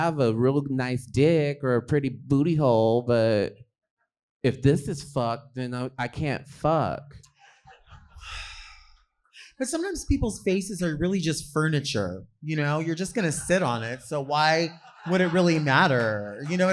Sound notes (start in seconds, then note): 8.2 sighs